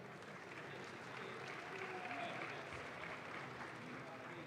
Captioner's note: audience claps